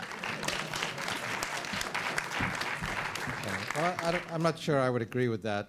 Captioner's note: applause